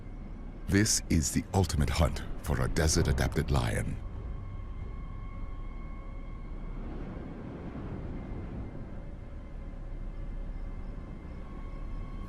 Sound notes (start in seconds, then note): 4.0 insects chirring; 4.0 suspenseful music